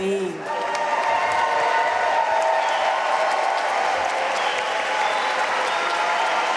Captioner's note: audience cheering and applauding